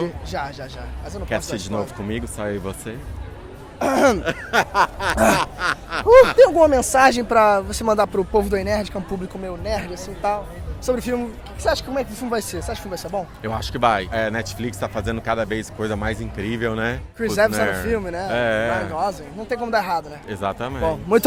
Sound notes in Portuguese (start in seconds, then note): 3.8 pigarreando; 3.8 rindo